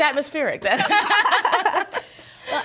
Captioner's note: everyone laughing